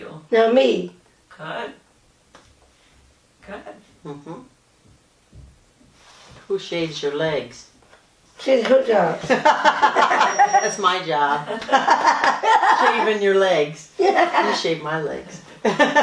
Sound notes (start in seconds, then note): 9.2 laughter; 13.0 laughter